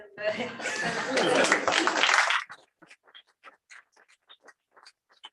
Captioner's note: applause